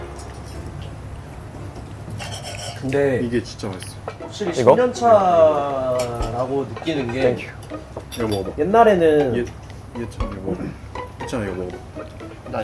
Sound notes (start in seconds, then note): 6.3 chatter chatter